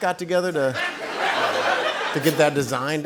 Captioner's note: laughter